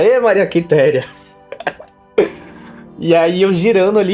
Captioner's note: boy laughs